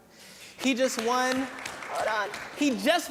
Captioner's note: applause